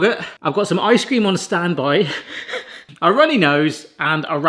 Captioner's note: coughing